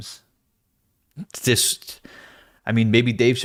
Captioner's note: confused noises